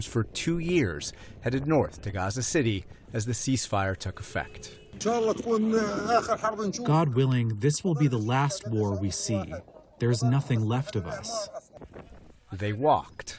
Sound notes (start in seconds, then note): 6.9 through translator